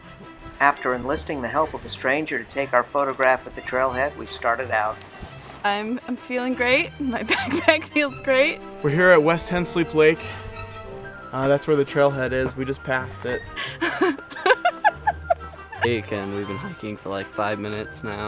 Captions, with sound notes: After enlisting the help of a stranger to take our photograph at the trailhead ... we started out. I'm feeling great. My backpack feels great. We're here at West Tensleep Lake. That's where the trailhead is. We just passed it. [laughing] We've been hiking for like five minutes now.